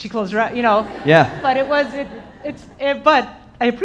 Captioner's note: audience laughing